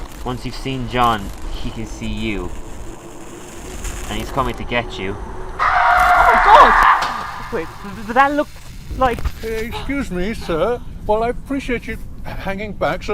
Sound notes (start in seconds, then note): 5.6 screaming!